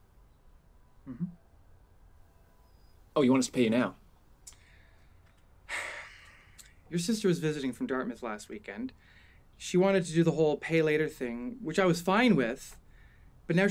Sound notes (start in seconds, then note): 5.6 sighs